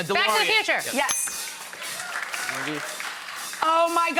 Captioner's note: bell dings